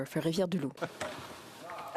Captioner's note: speaking French